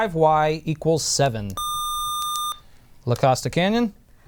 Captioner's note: buzzer}